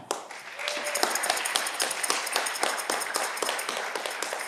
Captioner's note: audience clapping